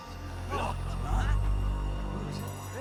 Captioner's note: eerie music; soldiers gasping